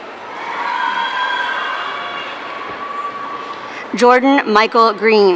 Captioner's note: audience cheering